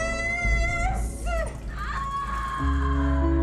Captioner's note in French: Elle crie; musique mélancolique